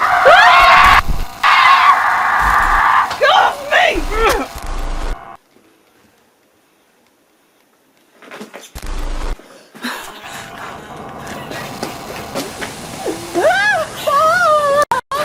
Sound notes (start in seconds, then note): 0.0 screaming; 13.0 Leona screams